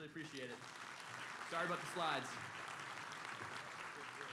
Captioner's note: applause